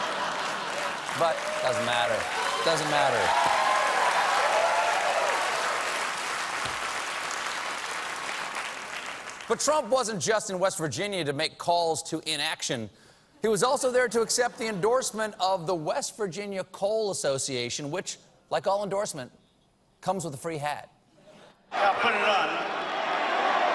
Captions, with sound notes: ONE, I DON'T GIVE A CRAP. (APPLAUSE) IT DOESN'T MATTER. DOESN'T MATTER. BUT TRUMP WASN'T JUST IN WEST VIRGINIA TO MAKE CALLS TO INACTION, HE WAS ALSO THERE TO ACCEPT THE ENDORSEMENT OF THE WEST VIRGINIA COAL ASSOCIATION WHICH, LIKE ALL ENDORSEMENTS, COMES WITH A FREE HAT. >> I WILL PUT IT ON.